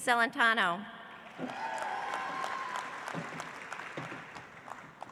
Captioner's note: audience applauds